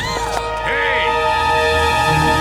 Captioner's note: gasps